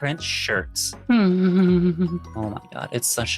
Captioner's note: humming